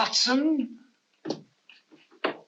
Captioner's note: knocking